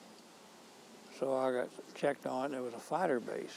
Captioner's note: none